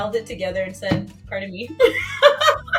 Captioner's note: laughs